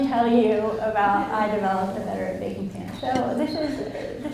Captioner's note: audience laughs